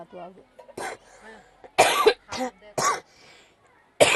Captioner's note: coughs